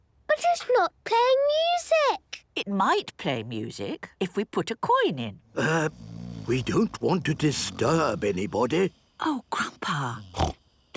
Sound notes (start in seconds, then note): 5.5 people snoring